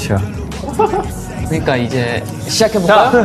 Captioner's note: starts to sniff its scent